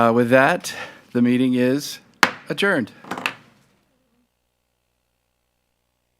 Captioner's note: gavel bangs